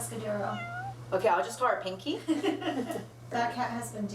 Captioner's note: laughs